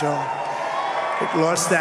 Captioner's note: applause